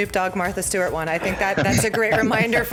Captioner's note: laughter